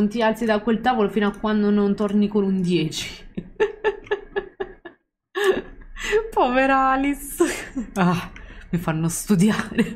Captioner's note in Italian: Risate